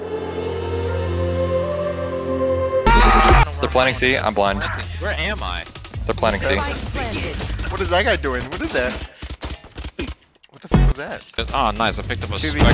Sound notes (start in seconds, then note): 0.0 slow music; 2.9 screaming; 7.1 announcer talking; 7.1 guns firing